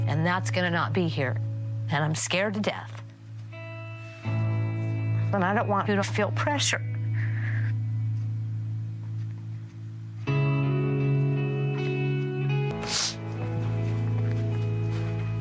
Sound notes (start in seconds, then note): 7.9 crying; 12.7 sniffing